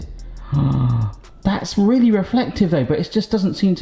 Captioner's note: gasps in awe